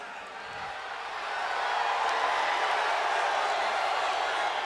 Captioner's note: audience cheering